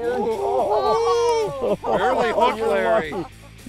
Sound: laughs

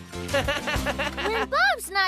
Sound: laughs

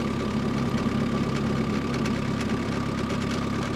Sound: engine

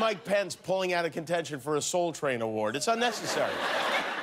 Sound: laughter

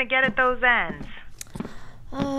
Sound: sighs again

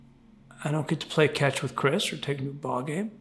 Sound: none

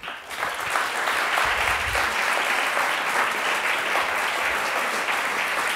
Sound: applause

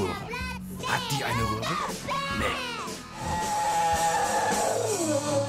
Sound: German Voiceover Translation

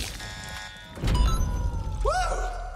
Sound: alarm churp; computer sounds

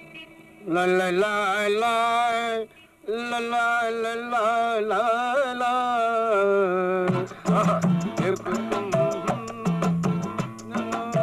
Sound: humming

